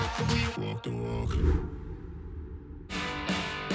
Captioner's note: image whooshes; upbeat music